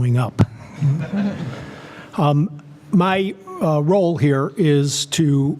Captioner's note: laugh